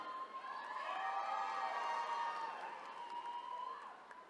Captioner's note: attendees cheering